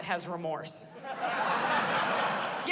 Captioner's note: laughter